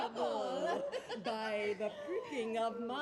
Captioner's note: laughs